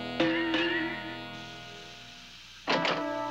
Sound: clangs; gas hissing

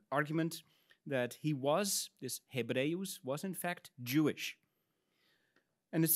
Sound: speaks in Latin

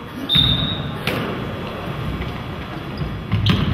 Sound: whistle blows

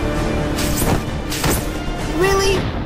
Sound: web Thwip

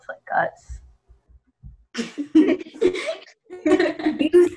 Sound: snickering

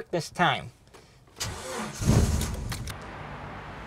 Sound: engine starts

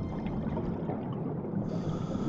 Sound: oxygen bubbles blowing

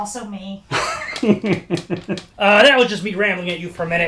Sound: laughs

